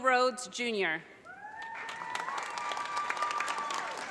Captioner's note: audience cheers and applause